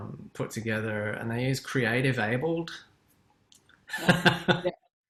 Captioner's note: laughs